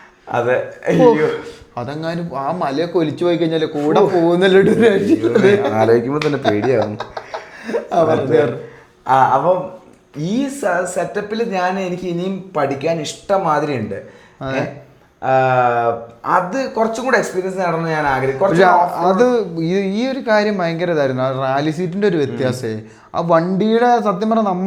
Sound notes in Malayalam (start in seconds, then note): 8.2 പൊട്ടിച്ചിരി